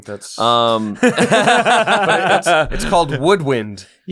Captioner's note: laughter